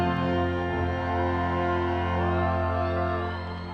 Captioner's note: audience cheering